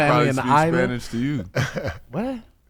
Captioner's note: laughing; laughs